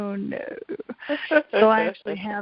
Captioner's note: laughs